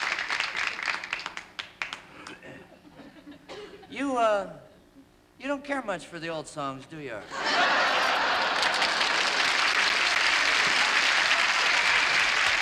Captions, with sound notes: You, uh... You don't care much for the old songs, do you, Art? [ Laughter ] [ Applause ]